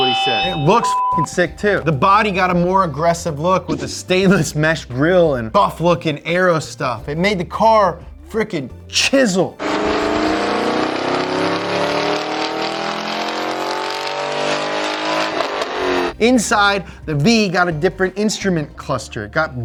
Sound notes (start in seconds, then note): 0.0 beep; 9.5 engine revs